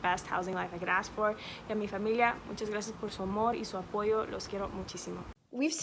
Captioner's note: speaks in Spanish